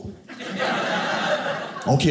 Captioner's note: audience laughing